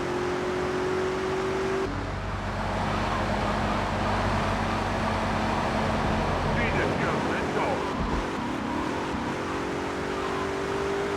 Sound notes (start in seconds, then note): 0.0 car engine roaring